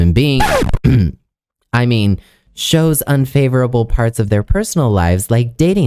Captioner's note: cough